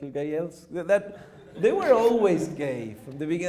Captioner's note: chuckles